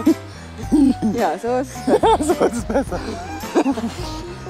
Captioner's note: laughs; both are laughing